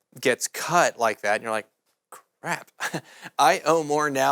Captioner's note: chuckling